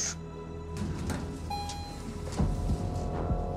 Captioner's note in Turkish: Kapı açıldı